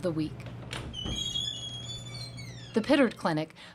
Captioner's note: door squeals